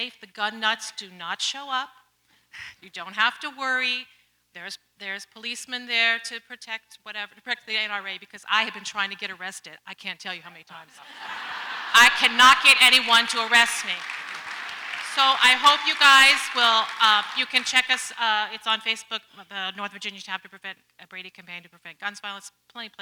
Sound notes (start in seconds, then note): 11.5 audience laughs; 14.2 audience applauds